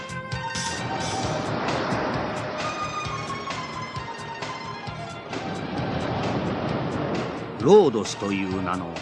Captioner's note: SFX: ocean waves